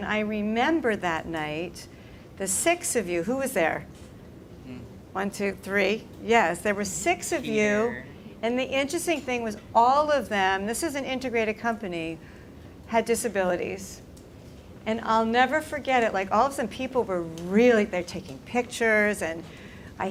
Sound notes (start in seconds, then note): none